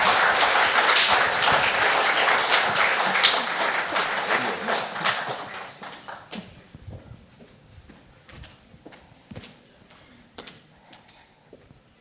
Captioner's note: applause